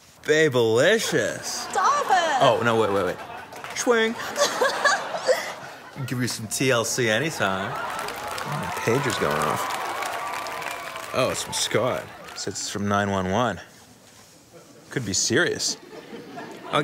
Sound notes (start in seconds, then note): 4.2 girl laughs; 8.1 audience applauding